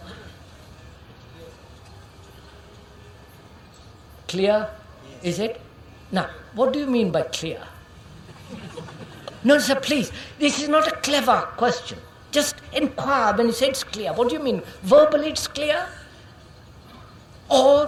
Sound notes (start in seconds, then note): 8.2 laughter